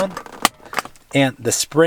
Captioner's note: tool pops